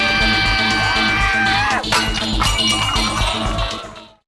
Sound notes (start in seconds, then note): 0.0 screaming; 1.8 object clattering